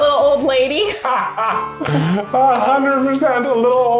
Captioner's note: laughing